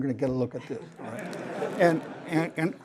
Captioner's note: laughter